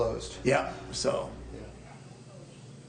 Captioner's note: voiceover